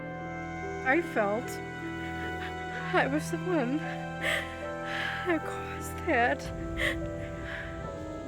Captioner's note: crying